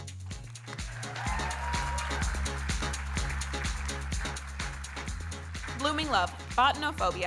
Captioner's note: audience cheering and applauding